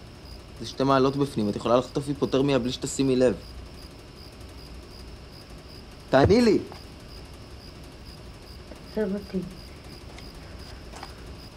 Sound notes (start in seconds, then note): none